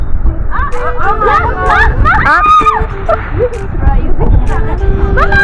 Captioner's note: scream